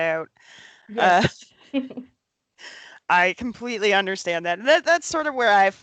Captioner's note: laughs